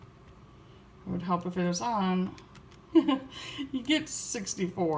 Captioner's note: chuckles